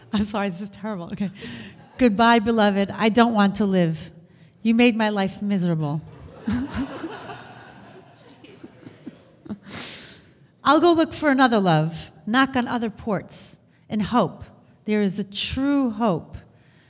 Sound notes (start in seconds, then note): 6.2 laughs